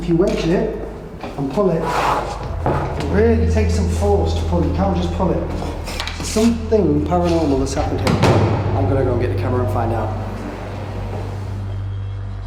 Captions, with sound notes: If you wedge, and pull it, it really takes some force to pull it, you can't just pull it. Something paranormal has happened here. (door thudding) I'm gonna go and get the camera and find out.